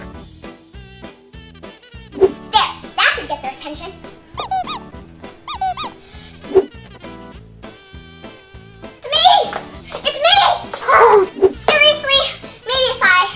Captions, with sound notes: (upbeat music) - There, that should get their attention. (toy squeaking) It's me, it's me. Oh, seriously, maybe if I...